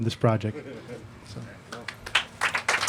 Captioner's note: applause